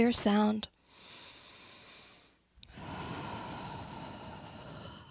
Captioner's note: breathes deeply